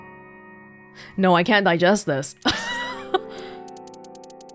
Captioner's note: chuckles